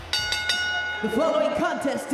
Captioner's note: bell rings